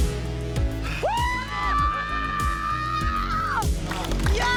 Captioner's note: crowd cheers